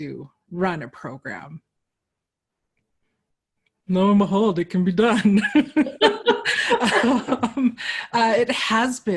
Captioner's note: laughter